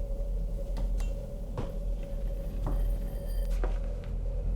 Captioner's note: footsteps